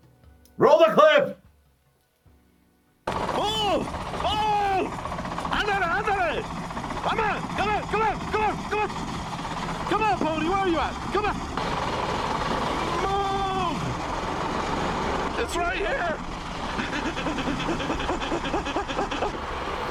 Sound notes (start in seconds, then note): 3.2 kart engine rattling